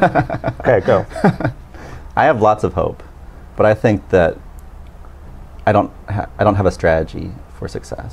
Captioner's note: laughing